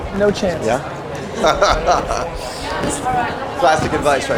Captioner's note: laughter